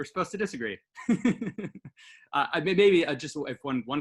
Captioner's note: laughing